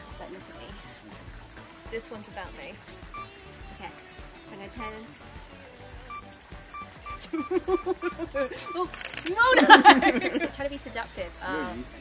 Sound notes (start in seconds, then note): 6.8 camera shutter click; 7.2 laughs